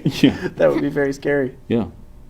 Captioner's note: laughs